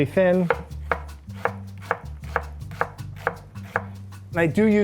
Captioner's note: knife thudding